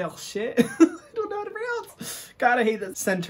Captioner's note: laughs while speaking